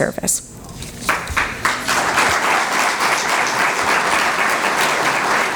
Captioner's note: applause